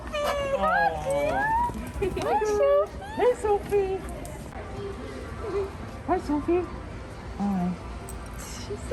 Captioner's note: laughing and giggling